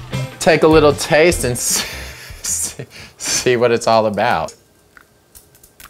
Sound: laughs

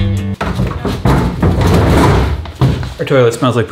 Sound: mellow rock music; thumping

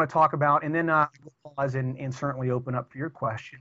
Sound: audio corruption

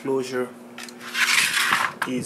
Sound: drill whirring

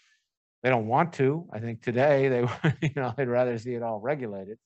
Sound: laughs

